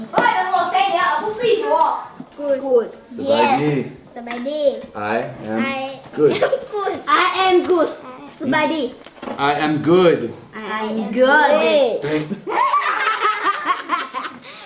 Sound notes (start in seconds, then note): 0.3 foreign language; 6.5 chuckles; 8.0 foreign language; 10.6 in Unison; 12.1 all laugh